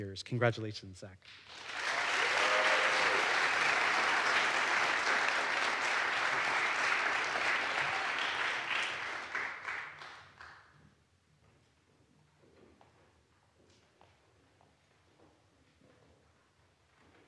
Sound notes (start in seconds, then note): 1.3 audience applauds; 1.6 audience cheers